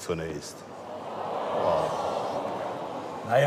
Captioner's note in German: Enttäuschte Laute aus dem Publikum